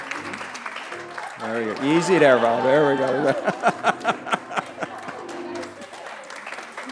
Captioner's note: applause; laughs; applause